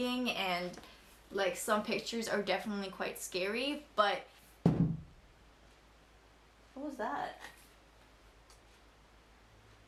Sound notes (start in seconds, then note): 4.6 something falls to the floor